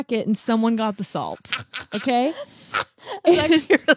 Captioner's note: laughs